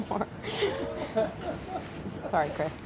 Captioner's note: laughing